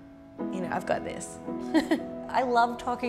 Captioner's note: laughs